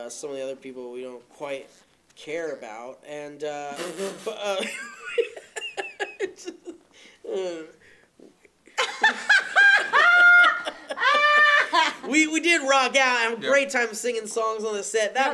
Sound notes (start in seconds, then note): 4.4 laughter